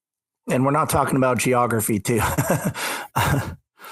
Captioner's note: laughs